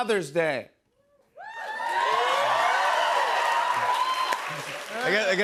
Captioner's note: cheers and applause